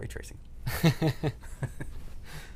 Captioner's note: laughter